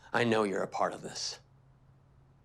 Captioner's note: none